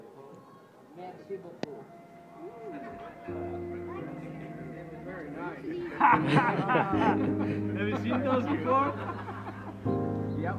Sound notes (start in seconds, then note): 1.0 foreign language; 5.4 men laughing